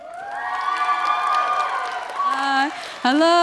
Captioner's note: applause